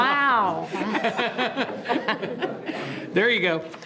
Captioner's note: group laughing